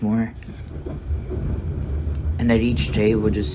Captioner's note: train engine chugging